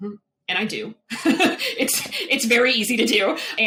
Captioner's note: laughs